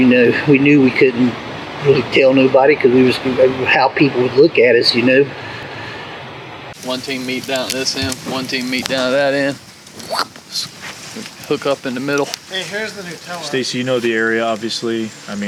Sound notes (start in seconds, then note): 10.3 mimics crash sound